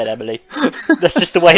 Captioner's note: laughing